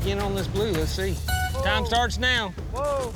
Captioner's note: horn blows